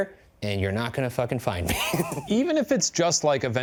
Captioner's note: laughing